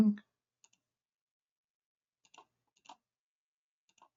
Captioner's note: mouse clicking